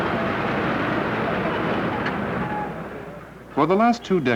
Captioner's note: cars and buses, sounds of traffic